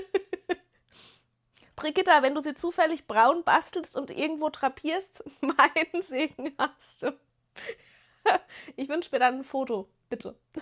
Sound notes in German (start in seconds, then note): 0.0 gelächter; 7.3 gelächter